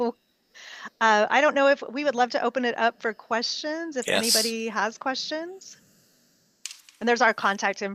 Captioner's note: laughing